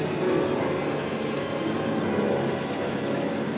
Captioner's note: none